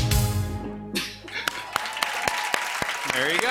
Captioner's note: cheers and applause